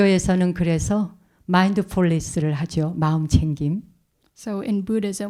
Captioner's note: speaking in Korean